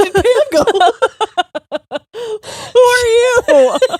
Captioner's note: both laughing